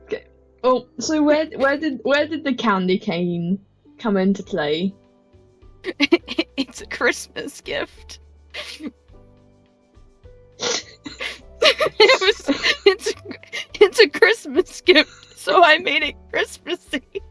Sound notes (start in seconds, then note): 5.9 swig, laughing; 11.6 still Laughing